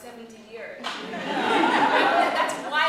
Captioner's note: laughter